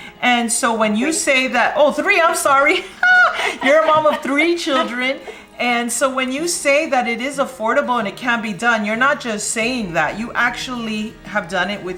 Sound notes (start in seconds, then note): 2.7 laughs